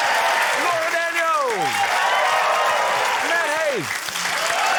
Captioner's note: cheering, applause